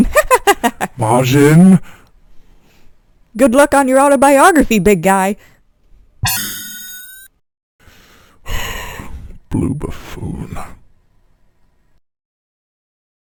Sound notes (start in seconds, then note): 6.2 warp Ring Sound; 8.4 sigh